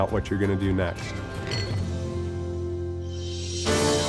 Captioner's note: glasses clink